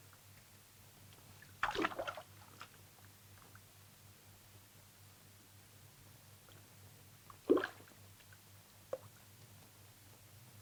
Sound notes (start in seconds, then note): none